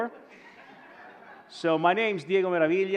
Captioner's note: audience laughing